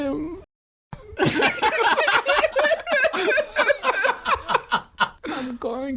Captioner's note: laughter